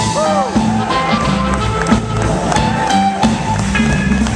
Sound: applause

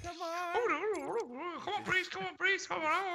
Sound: laugh

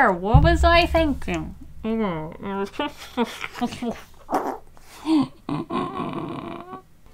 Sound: mumbles and then mouth farts in dispair

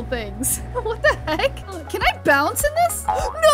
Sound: laughing

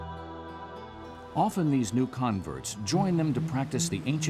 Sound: voiceover

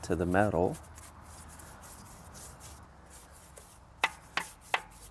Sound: painting sounds

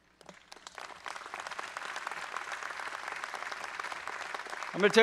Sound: audience applauds

